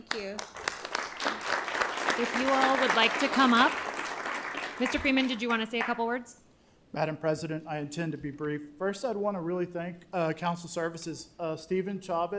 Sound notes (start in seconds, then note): 6.1 applause